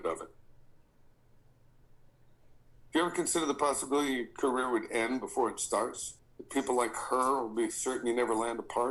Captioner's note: none